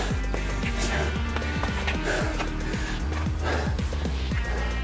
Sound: heavy breathing

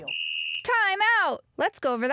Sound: whistle

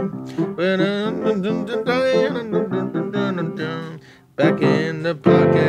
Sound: humming; piano music

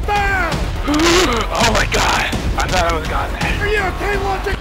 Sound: inhales

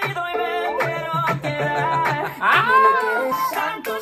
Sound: laughs

